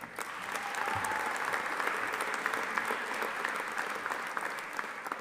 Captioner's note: audience applauding